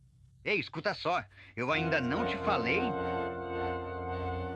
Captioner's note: windy shouts for help